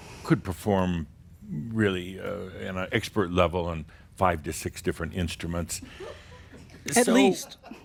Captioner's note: a few giggles